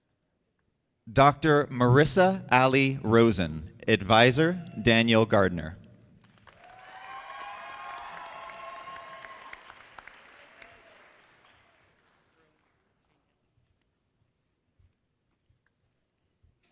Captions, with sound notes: Dr. Marisa Ali Rosen Advisor, Danielle Gardner. (audience applauding)